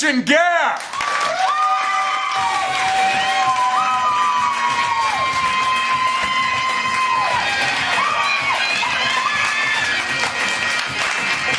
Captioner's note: cheers & applause